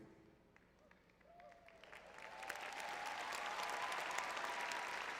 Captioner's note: applause